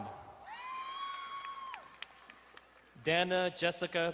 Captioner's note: crowd cheering and applauding